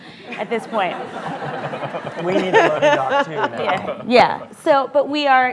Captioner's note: laughter